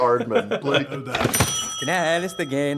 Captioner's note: ding